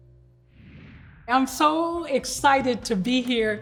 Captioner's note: air whooshing